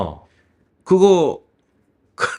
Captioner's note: laughs